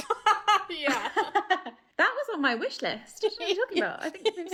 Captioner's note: laughing